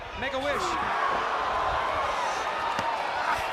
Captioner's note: crowd cheering